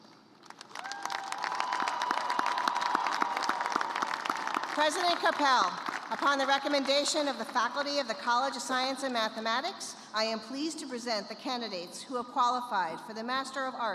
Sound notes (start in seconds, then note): 0.5 cheers and applause